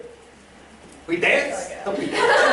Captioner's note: laughter